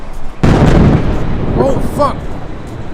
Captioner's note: explosion sound